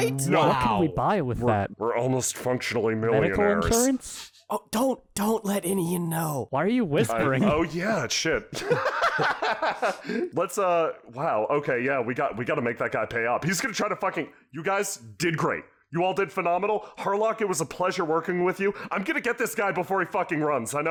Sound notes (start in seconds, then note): 4.7 whispering; 8.5 has a good laugh